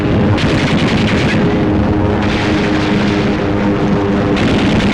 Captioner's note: guns firing